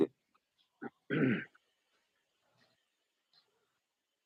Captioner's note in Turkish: boğazını temizler